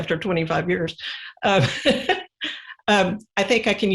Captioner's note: laughs